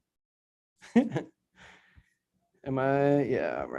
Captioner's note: giggles